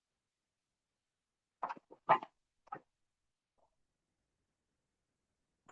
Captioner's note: pause